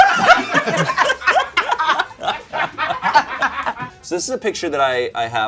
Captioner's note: everyone laughing